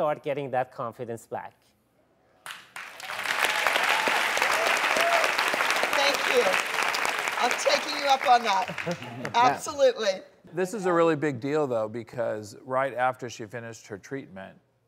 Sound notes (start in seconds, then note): 2.4 audience applauds